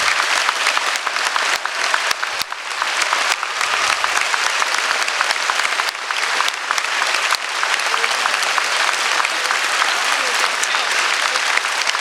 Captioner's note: applause